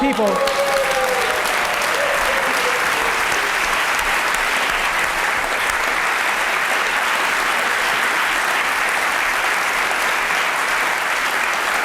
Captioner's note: applause